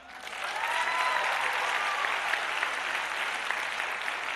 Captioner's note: applause